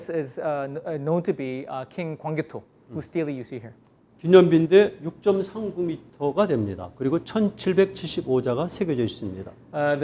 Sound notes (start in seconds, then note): 4.4 speaking in Korean